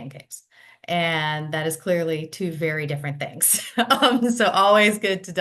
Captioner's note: laughs